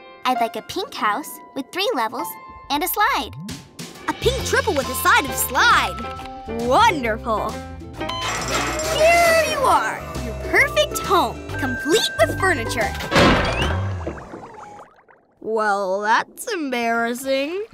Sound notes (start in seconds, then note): none